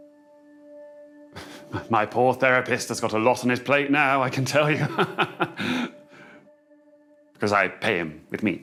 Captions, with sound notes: My poor therapist has got a lot on his plate now, I can tell you! [chuckles] ...because I pay him with meat.